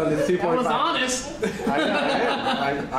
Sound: laughter

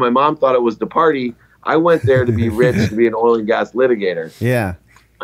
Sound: chuckle

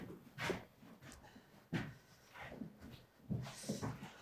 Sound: feet shuffling

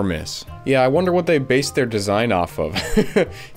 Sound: short Laugh

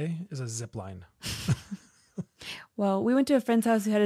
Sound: laughs

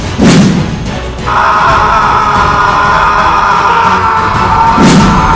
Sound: men Screaming

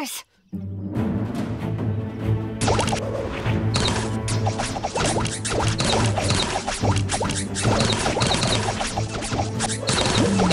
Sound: arrow sounds

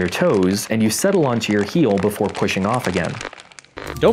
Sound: crinkling chip bag; more crinkling chip bag

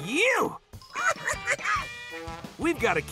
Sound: chattering

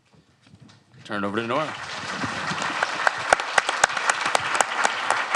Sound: audience applauding

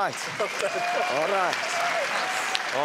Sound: audience applauding

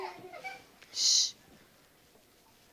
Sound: children giggle

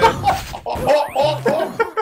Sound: laughter

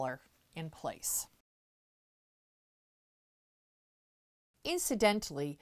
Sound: no Sound Present

